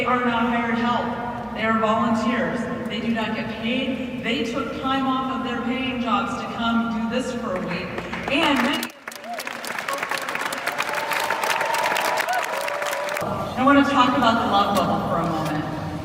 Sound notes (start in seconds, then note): 12.2 applause